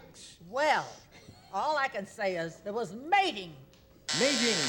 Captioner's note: buzzer